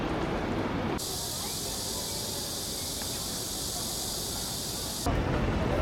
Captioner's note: the sound of cicadas